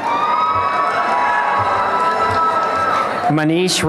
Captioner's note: applause and cheering